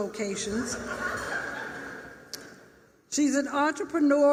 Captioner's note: laughter